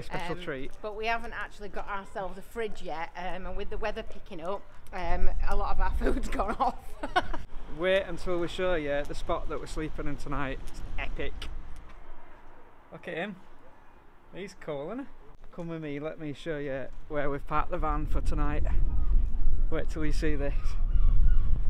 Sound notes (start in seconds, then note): 6.0 laughing